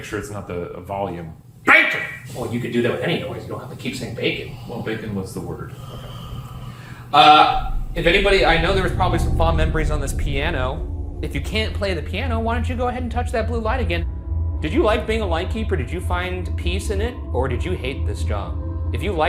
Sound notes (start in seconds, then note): 5.7 deep breath